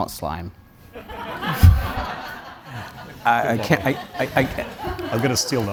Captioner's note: audience Laughing